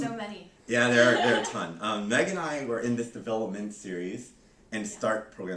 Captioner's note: laughter